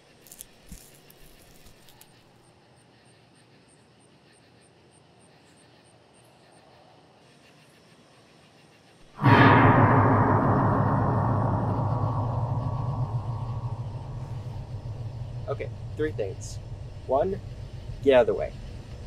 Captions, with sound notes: [leaves rustling] [rustling stops] [scary noise] Okay, three things: One, get outta way.